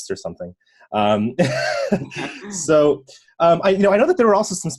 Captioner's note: chuckling